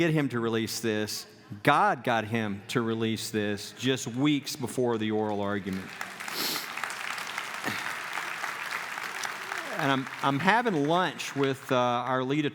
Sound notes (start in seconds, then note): 5.2 clapping